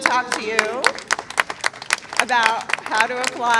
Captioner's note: applause